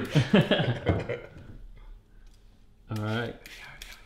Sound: all chuckle

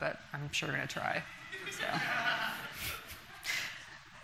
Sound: laughter from the audience

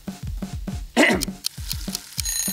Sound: timer Ticking; timer Ringing

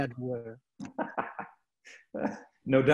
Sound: laughing

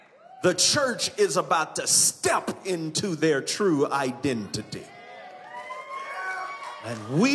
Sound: congregation exclaims; congregation cheers

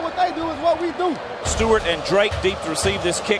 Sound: voiceover

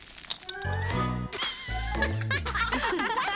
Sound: laughing

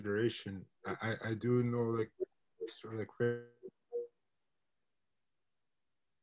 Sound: internet distortion

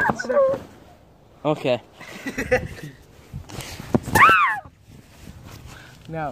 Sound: laughs

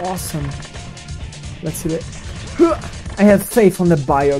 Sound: grunt

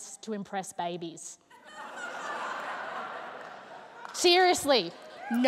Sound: laughter

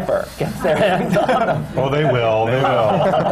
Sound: laughter

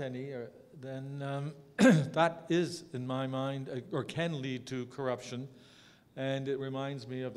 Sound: cough

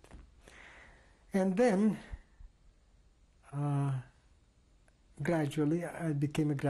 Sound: pauses for 3 seconds

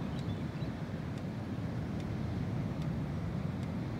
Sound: boat-tailed Grackle sounds grow louder

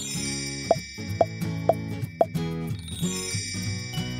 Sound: stars sparkles; dots popping; bright music

